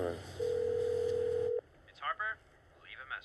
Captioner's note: phone rings